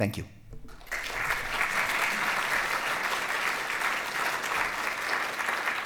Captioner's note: applause